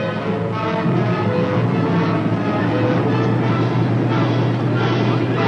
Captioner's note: suspenseful music; engine idling; suspenseful music continues